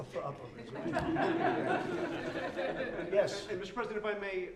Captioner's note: laughter